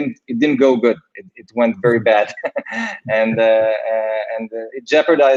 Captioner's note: laughs